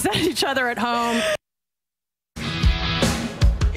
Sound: laughter

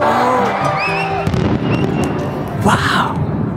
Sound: fireworks boom & crack

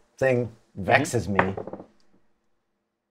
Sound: die clatters

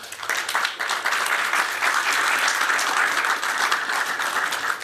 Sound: applause

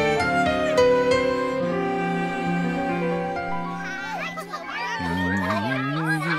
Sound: Professor Wordsworth humming to himself

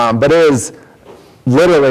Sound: none

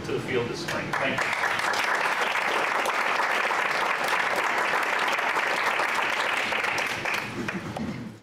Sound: clapping

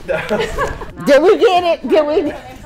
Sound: laughter

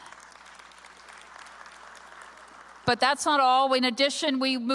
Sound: applause

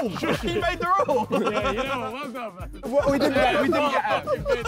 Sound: all laughing

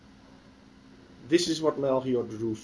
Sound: pause

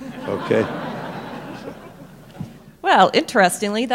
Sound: laughter

